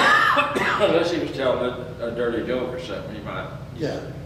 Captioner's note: coughs